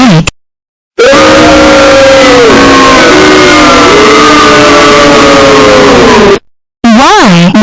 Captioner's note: swears Loud The Booing Sounds